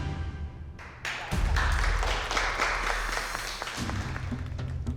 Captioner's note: applause